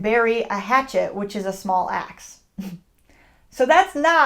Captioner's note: laughs